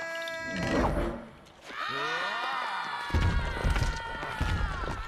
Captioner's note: animals scream